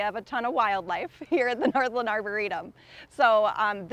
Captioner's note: chuckles